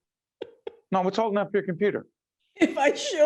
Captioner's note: laughing